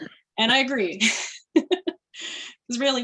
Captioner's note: laughter